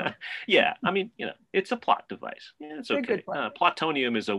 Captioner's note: laughs